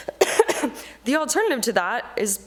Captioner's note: coughing